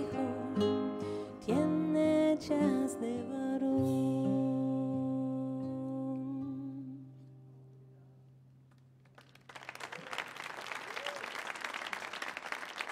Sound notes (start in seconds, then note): 9.0 audience clapping